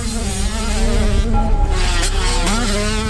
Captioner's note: pipe hit sfx